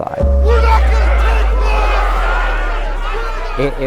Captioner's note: crowd Yelling